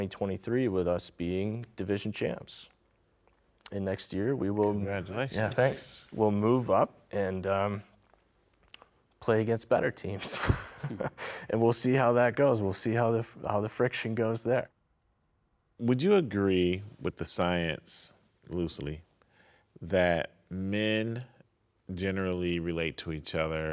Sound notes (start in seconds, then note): 10.2 laughing